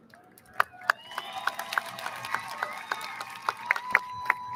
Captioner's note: audience lauds